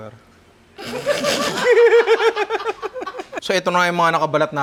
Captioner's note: laughing